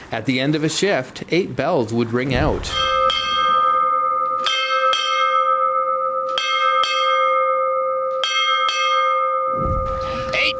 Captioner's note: eight bells ring